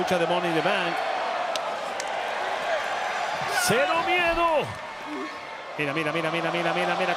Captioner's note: applause